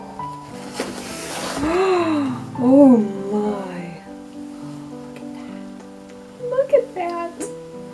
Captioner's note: gasps